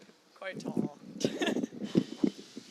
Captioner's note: laughs